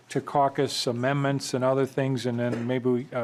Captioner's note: gavel